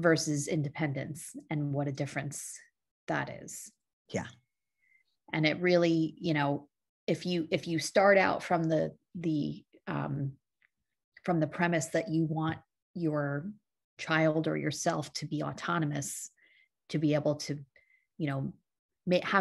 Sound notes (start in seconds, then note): none